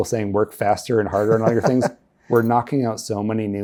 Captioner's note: laughing